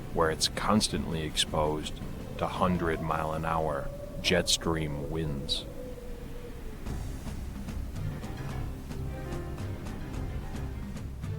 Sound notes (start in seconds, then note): 5.4 wind blowing; 6.6 tense music